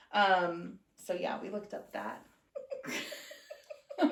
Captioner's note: laughter